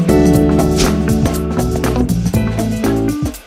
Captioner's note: swish